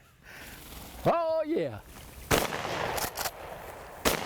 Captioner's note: guns bang